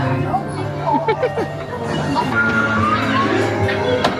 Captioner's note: laughing